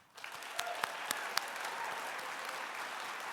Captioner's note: applause